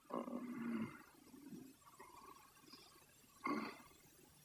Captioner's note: Charlie shoring